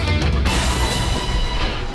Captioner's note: boom!